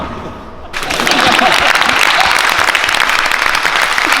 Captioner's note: crowd claps